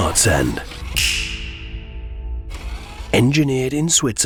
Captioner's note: fingers snap